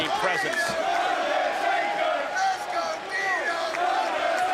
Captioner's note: crowd chanting